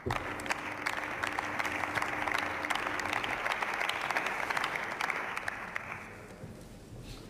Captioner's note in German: Beifall